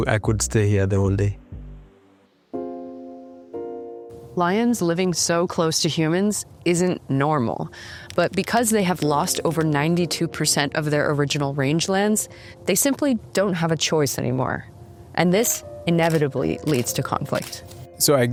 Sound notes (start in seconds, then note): 2.8 soft music; 7.8 keystrokes clicking